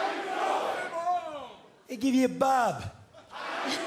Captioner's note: fans chanting; fans chanting